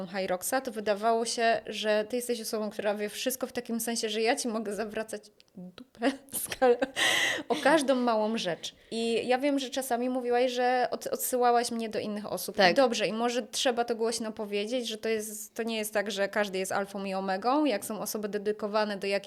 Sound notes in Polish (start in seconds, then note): 6.0 śmiech; 6.9 wciągnięcie powietrza